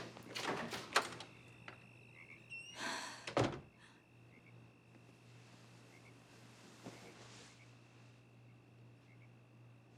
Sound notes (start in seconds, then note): 1.9 door closes; 2.8 sighs